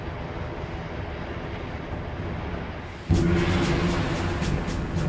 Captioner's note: waves crashing; dramatic instrumental music